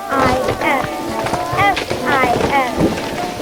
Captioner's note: sounds of trees falling